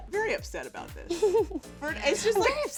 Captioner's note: laughing